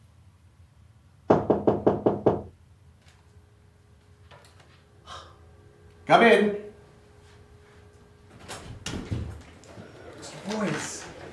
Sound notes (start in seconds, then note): 1.3 door knocking